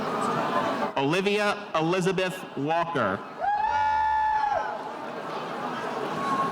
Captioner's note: spectators cheering